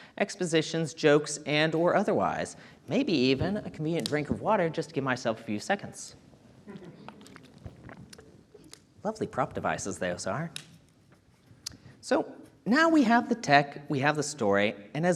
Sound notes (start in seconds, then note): 6.6 audience members chuckling